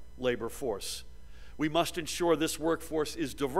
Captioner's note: none